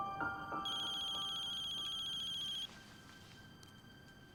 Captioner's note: phone ringing